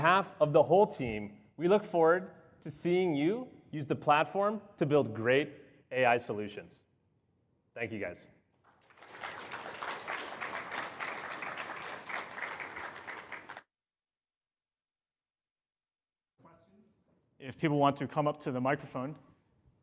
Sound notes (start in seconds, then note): 12.2 applause